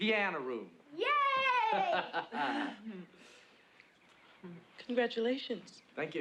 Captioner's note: laughs